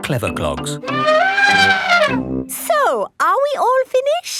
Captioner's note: trumpeting